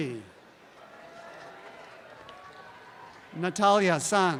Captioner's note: audience applause